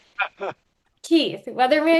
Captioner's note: chuckling